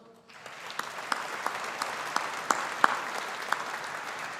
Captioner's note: audience applauding